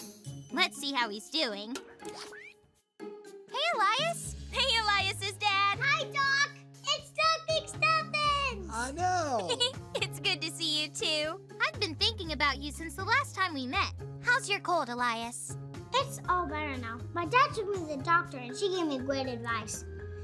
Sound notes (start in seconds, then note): 9.2 giggles